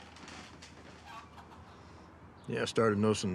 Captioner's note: chickens squawking